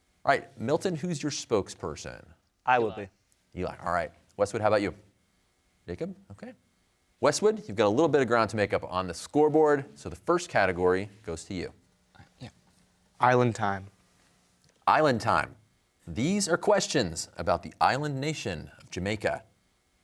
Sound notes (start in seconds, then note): 12.2 whispering